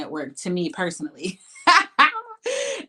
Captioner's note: laughs